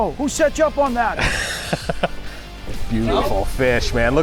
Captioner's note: laughs